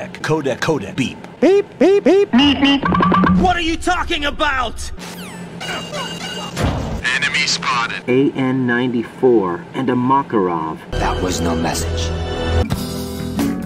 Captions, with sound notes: *Beeping noises* What are you talking about??? Enemy Spotted